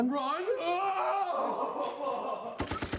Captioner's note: men yelling; gun firing